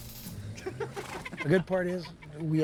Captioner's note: men laughing